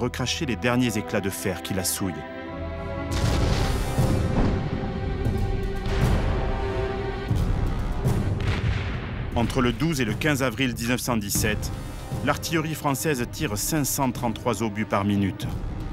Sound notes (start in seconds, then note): 3.1 cannon shots; 4.5 explosions